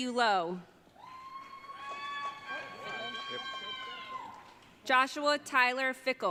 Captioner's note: audience cheering